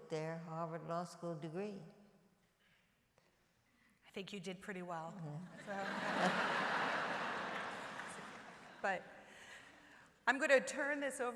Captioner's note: laughter